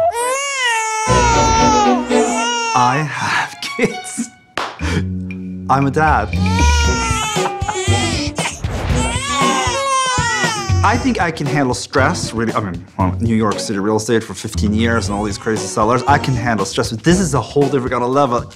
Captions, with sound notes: [babies crying] - I have kids. I'm a dad. - [laughs] [babies crying] - I think I can handle stress. With New York City real estate for 15 years and all these crazy sellers, I can handle stress. But this is a whole different kind of level.